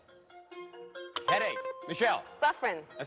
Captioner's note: buzzer rings